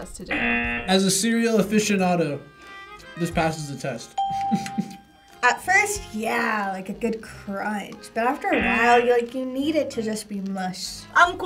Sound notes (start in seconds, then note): 0.2 buzzer rings; 4.1 bell rings; 4.2 laughs